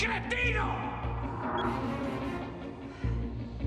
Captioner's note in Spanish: Bip